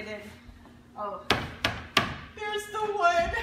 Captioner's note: wood being tapped